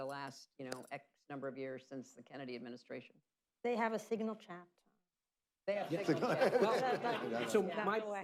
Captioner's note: laughter